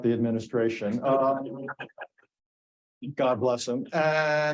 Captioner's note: audience chuckling